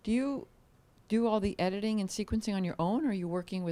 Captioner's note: none